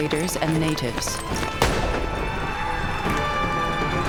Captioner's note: gunshots